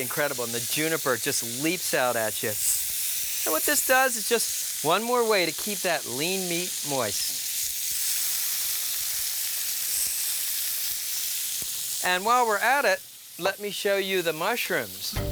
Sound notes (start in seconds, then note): 8.6 food sizzling